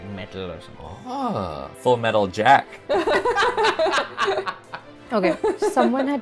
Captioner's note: laughter